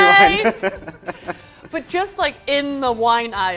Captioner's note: laughs